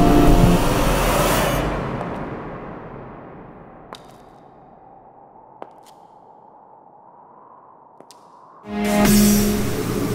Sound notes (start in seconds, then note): 1.9 footsteps